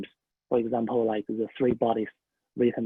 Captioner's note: speaking in foreign language